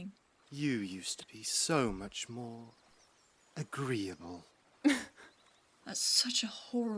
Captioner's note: Regulus laughs